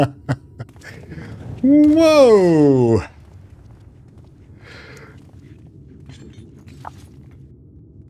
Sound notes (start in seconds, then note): 4.4 sighs